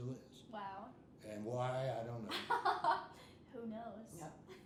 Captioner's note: laughing